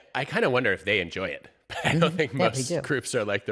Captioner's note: chuckles